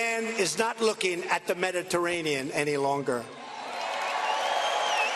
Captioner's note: cheers and applause